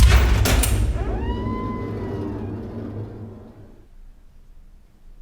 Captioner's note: gate hinge creaking